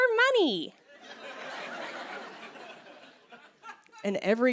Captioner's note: laughter